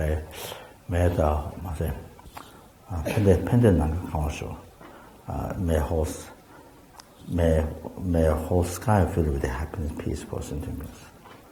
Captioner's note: tibetan